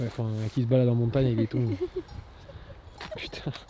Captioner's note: laughs